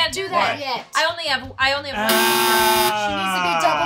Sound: buzzer

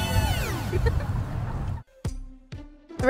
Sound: laughing

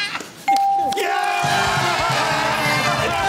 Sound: nervous laughter; cheering

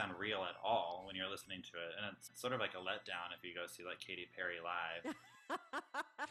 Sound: laughter

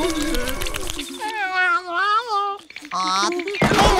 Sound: meowing

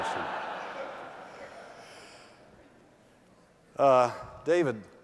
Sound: laughter

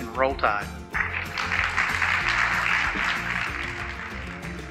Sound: attendees clapping

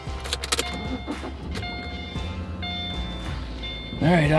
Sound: engine revving; electronic beeping

